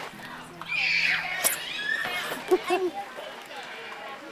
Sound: children screaming

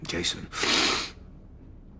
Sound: sniffles

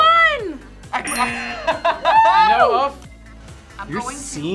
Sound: laughs

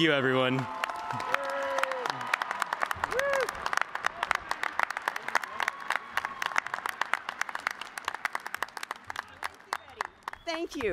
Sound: cheers and applause

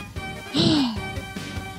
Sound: sigh

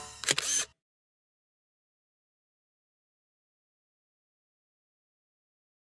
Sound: SFX: Camera Shutter

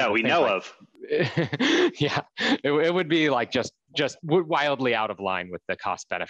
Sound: laughs

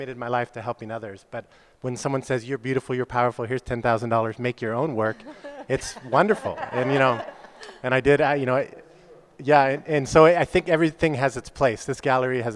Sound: laughs

